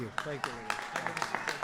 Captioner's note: applause